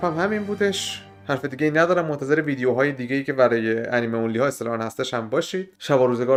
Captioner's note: English voiced